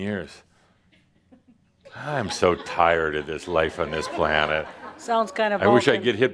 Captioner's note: audience is chuckling